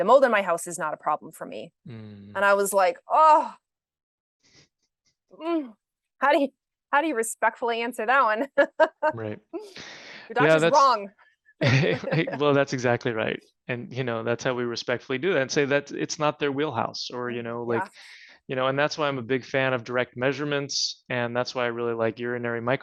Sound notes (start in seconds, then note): 8.9 chuckles; 11.6 laughter